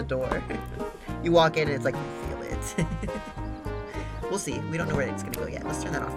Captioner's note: giggles